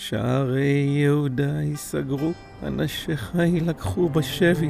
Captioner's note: speaking in Hebrew